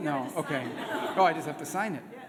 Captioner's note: laughter